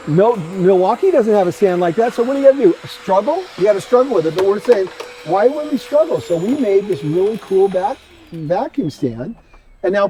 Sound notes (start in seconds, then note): 2.7 vacuum whooshing